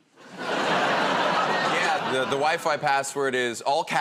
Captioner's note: laughter